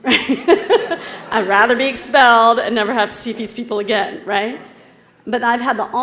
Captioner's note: laugh